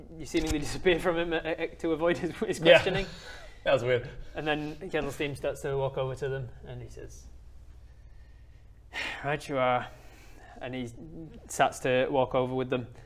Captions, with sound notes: you seemingly disappear from him to avoid his questioning That was weird and then Kettlesteam starts to walk over to them and he says *sigh* right you are and he start to walk over with them